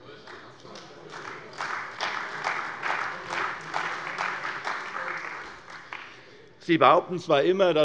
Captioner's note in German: Beifall bei der CDU und dem BÜNDNIS 90/DIE GRÜNEN